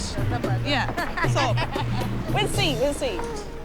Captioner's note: laughing